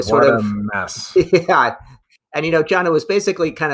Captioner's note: laughs